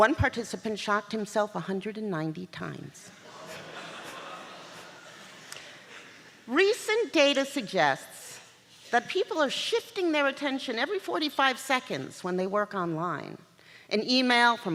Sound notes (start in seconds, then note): 3.2 laughter